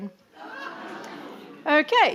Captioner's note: audience laughing